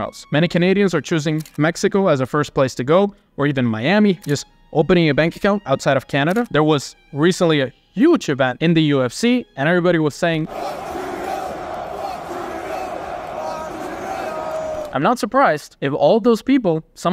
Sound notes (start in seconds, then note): 10.4 crowd